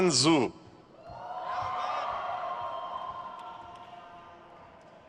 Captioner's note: crowd cheers